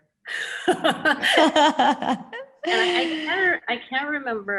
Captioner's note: panelists laughing